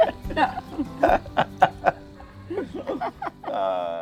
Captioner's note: both laughing